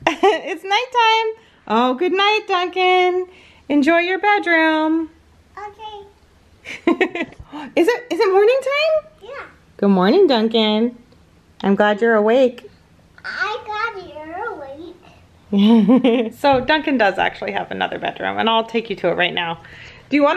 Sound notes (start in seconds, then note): 6.7 laughs; 15.6 laughs